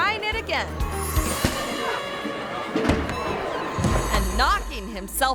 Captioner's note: plexiglass smacking